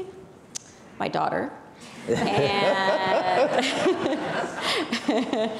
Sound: people laughing

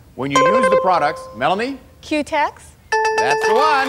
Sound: dinging

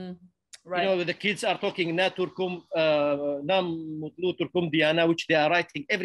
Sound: speaks foreign language

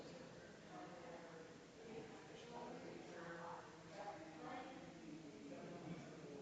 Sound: people chattering distantly continues

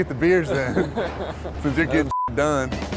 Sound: beep

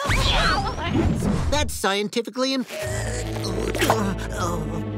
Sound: groaning

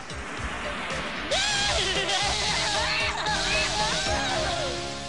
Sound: evil cackling

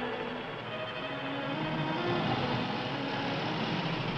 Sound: motorcycle approaches

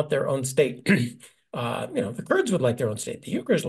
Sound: cough

